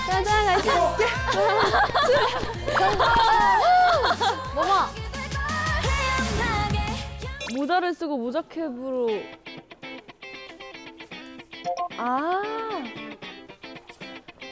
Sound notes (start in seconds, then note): 2.6 applause!